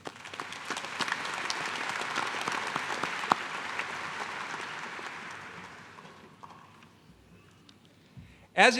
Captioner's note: applause